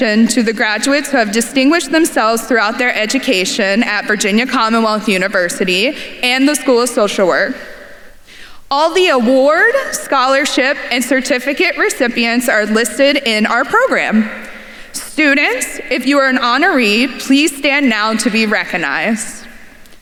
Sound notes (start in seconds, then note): none